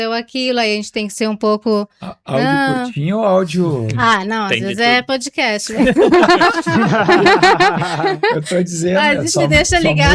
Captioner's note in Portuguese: risadas